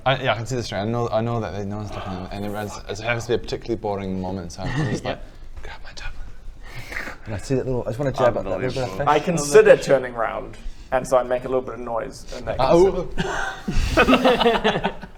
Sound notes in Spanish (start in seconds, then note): 5.5 susurra; 13.2 risas en la mesa